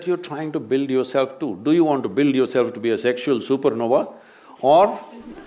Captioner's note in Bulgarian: смях